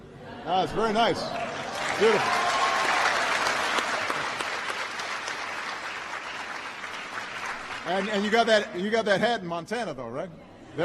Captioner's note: laughter; applause